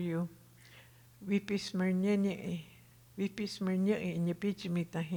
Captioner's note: speaking Tohono O'odham